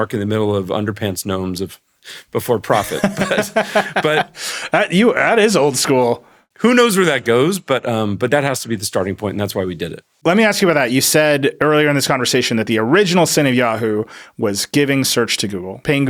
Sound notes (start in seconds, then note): 2.7 laughing